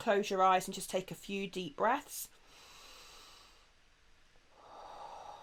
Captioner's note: breathing